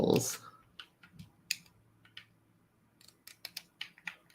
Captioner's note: clicking